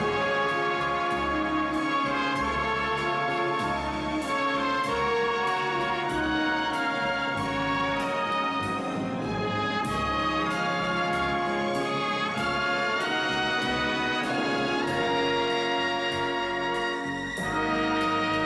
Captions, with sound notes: Now, Let's see some hustle, now, some hustle. Down, left, go! [whistle] Run it again. How you doing, Ricky?